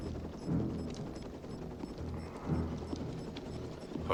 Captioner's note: beeping faster